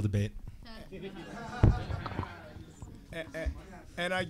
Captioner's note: audience laughing